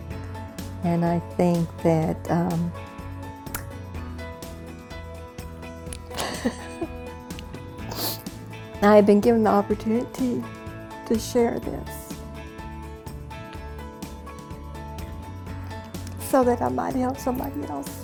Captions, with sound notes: and I think that, (chuckling and sniffling) that I've been given the opportunity to share this so that I might help somebody else.